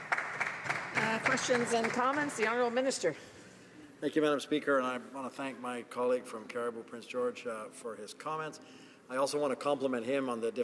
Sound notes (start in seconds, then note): 1.7 some Applause